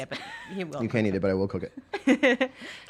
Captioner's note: laughing